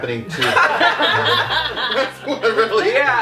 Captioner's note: laughter